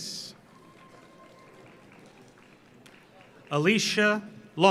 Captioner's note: audience applauds